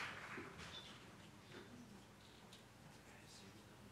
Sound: applause

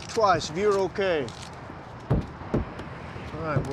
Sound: two kicks

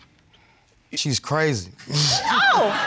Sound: chuckles

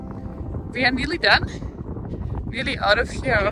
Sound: air whooshing

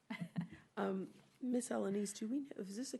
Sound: laughing

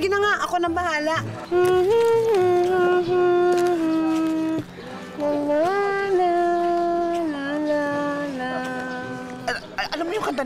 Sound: hums a melody

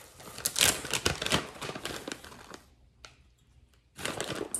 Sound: bag crumpling

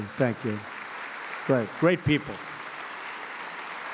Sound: applause

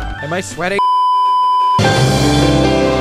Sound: beeeeeep

